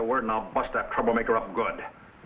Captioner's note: none